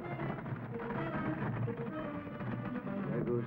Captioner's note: hooves clopping